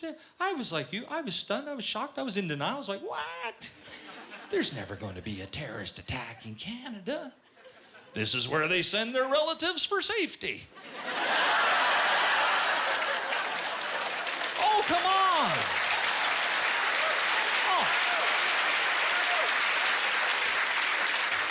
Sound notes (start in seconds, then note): 10.7 laughter; 15.2 applause